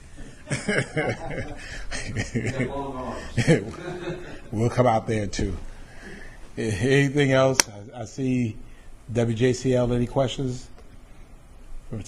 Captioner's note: laughter